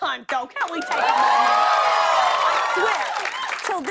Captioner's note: cheers and applause